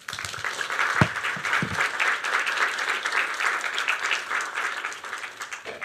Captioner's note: applause